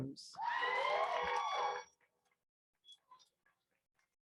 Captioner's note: crowd cheers